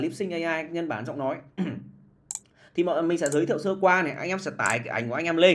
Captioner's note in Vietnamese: hắng giọng